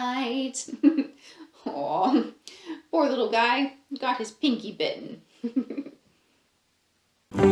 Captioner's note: laughs